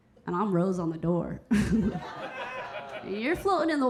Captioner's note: Keira chuckling; audience laughing